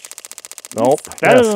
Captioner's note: water splashing; board clicking